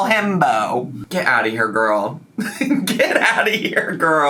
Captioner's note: laughs